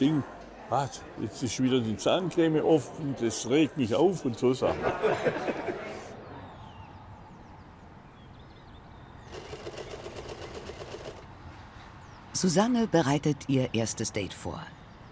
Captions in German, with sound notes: Jetzt ist wieder die Zahncreme offen, das regt mich auf! Und so Sachen. (Gelächter) (Nähmaschine rattert.) Susanne bereitet ihr erstes Date vor.